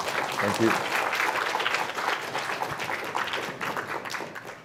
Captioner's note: audience applauding